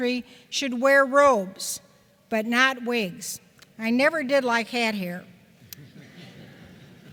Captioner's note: chuckles